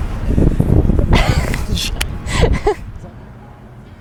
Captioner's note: laughs